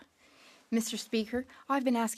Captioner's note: speaking French